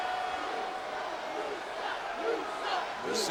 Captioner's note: crowd chants "You suck"